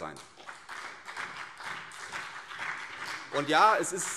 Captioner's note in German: Beifall CDU und BÜNDNIS 90/DIE GRÜNEN